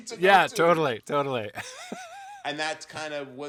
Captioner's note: laughs